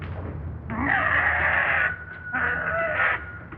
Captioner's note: growling